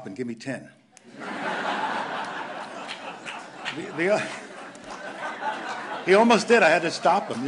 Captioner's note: laughter